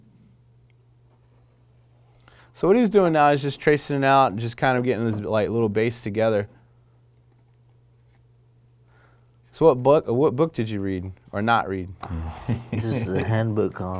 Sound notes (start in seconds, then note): 12.1 laughing